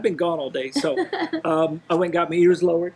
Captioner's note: laughing